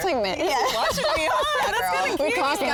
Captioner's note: all laugh